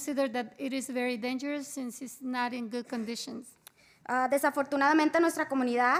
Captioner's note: spanish